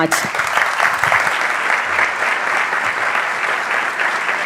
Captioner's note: audience applauding